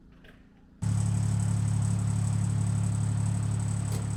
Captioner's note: motor humming